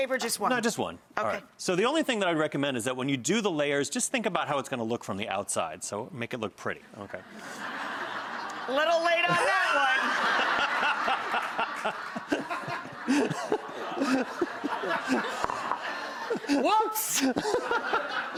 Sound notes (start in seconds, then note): 7.7 audience laughs; 10.4 audience laughs